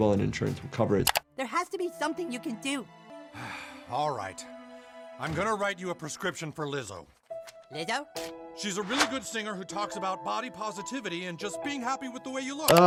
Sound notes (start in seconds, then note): 3.3 sighs